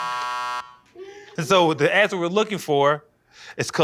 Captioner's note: buzzer